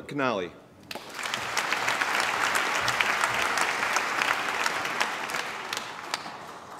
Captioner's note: applause